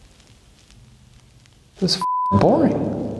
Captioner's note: beep